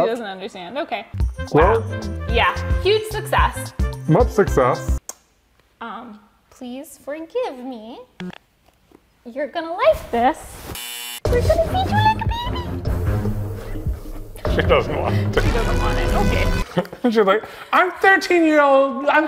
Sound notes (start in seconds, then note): 10.7 buzzer buzzing; 11.3 suspenseful music